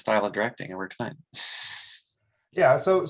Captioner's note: chuckles